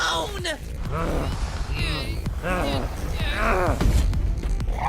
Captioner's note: strained grunting